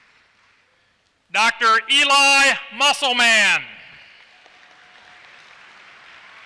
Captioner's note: applause